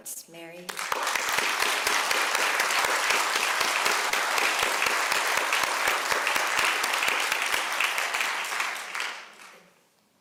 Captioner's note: applause